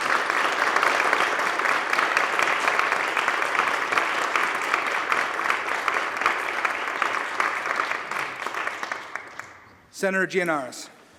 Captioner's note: applause